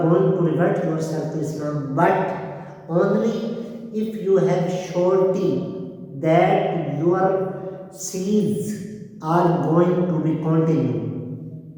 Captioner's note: breaths